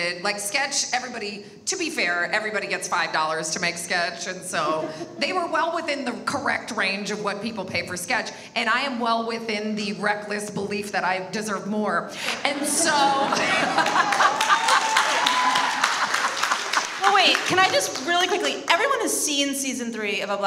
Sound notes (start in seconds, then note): 12.5 laughs; 12.8 audience applauds